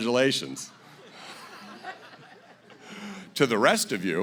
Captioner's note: laughter